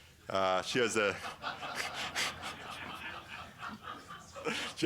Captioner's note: laughter